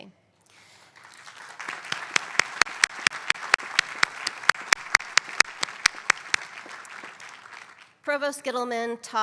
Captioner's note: applause